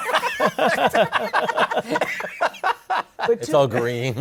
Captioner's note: laughter